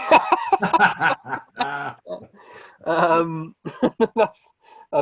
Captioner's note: both laughing